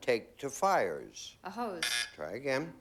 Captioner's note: buzz buzz